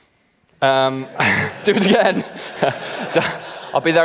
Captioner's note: laughs